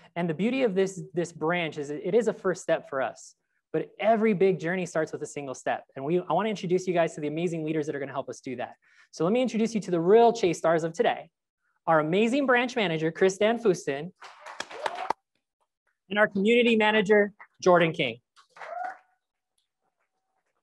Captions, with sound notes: And the beauty of this branch is that it is a first step for us but every big journey starts with a single step. And I want to introduce you guys to the amazing leaders that are gonna help us do that. So let me introduce you to the real Chase stars of today. Our amazing branch manager Christanne Fuston. (crowd applauds) And our community manager, Jordan King.